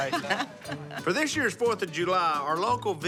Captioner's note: laughs